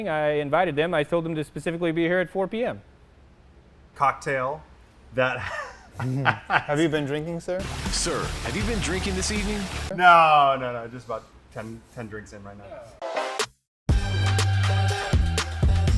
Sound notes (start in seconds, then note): 5.3 laughs; 8.0 voiceover; 13.9 upbeat music